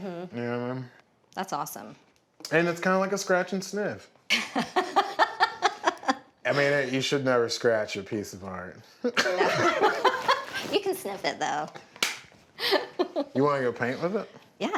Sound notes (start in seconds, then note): 4.3 laughs; 9.1 laugh